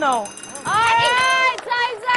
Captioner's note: timer sounds